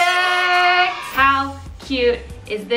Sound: crowd cheering

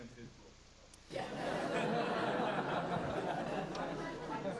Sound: laughter

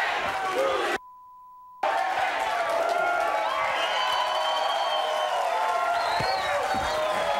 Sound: audience cheering; beep; audience cheering

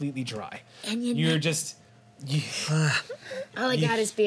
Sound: groans

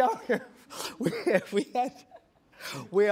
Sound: laughing

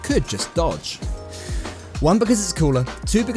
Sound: deep breath

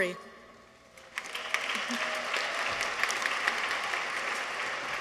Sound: audience applauds

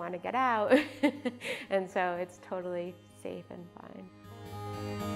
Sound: laughs

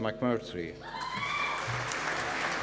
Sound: applause

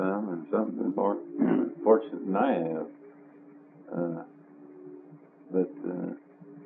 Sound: clears throat

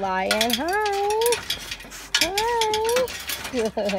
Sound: laughs

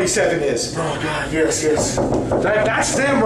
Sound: knocking

